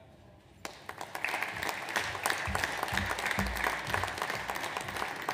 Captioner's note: audience applauds